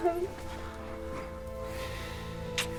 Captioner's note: cries